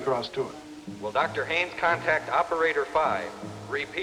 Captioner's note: man on PA